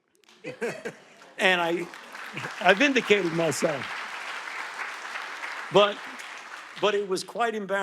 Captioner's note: audience laughing; audience applauding